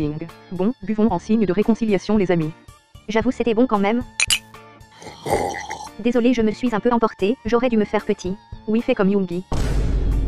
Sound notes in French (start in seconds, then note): 4.2 bruit de verres; 4.9 slurp